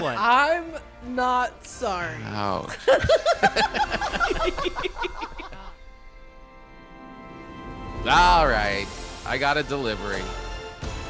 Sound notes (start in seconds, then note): 2.6 all laughing